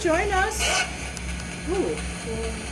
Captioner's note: spirit box yells